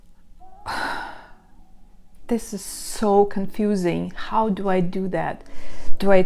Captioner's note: sighing